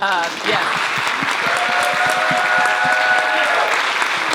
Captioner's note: applause, cheering